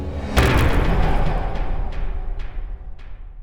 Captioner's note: impact